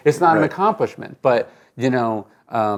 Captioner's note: laughs